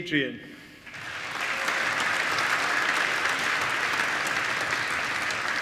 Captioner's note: applause